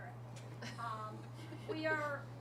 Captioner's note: laughter